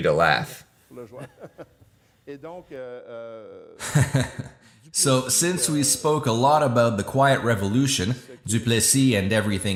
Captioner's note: laughs